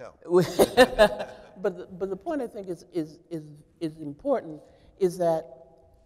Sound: chuckles

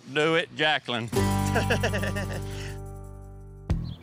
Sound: laughing

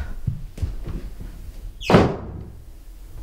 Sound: door closes

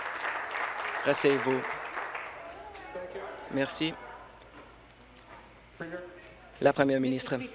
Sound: applause

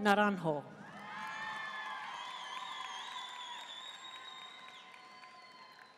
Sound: audience cheering and applauding

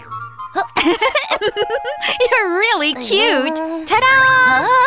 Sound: Hana giggles

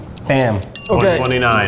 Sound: timer dings

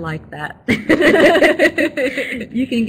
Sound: laugh

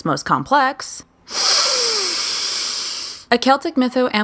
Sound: deep breath

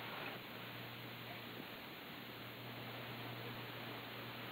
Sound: none

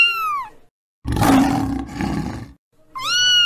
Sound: cat meowing; lion roaring; cat meowing

